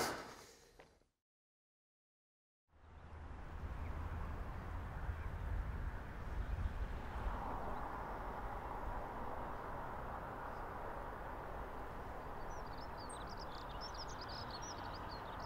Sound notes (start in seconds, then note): 2.5 birds singing